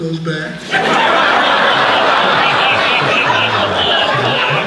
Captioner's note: laughing